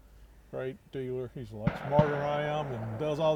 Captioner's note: distant gunshots pop